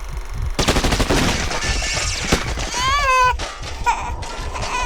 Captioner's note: gunshots firing; baby crying; heart beating